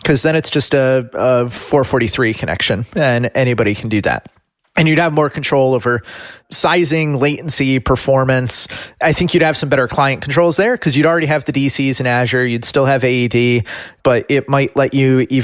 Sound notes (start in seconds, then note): none